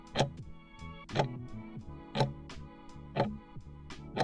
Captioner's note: timer ticking